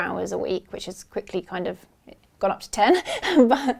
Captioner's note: laughs